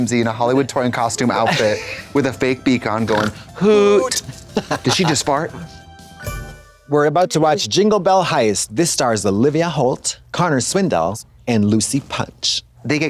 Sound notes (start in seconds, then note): 6.3 bright chime